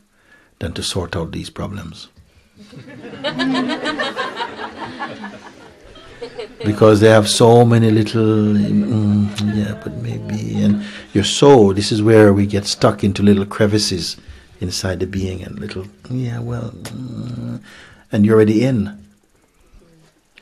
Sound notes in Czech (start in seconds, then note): 2.6 smích